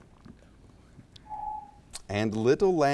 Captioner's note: timer beeps